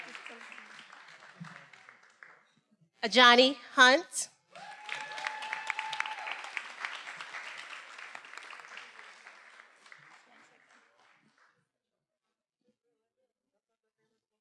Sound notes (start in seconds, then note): 0.0 attendees applauding; 4.5 attendees cheering and applauding